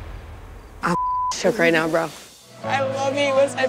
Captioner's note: beep